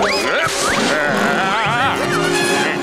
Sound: groaning

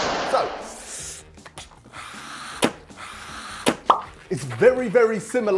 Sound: blowing sound

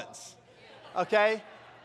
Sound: congregation laughs

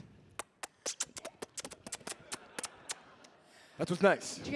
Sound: kisses; audience laughing

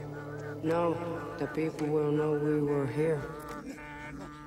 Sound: echoing; throat singing

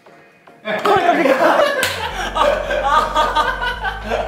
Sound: got so shocked he fell, crashing down

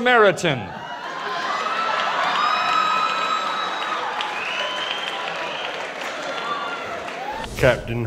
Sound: laughters

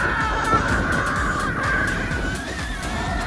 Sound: yelling

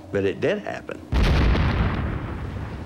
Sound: boom

